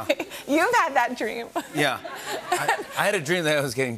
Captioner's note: light laughter